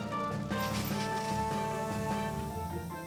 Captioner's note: water Gushes; torch Hisses